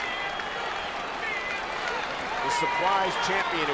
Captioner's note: crowd cheers